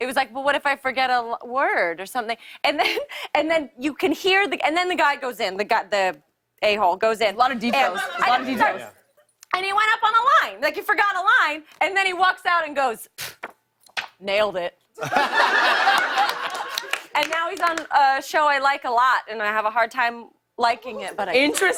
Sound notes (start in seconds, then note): 13.5 scoffs; 15.0 laughter and applause